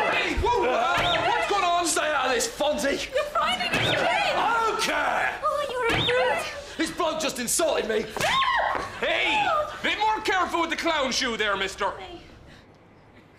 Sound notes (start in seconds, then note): 8.2 screaming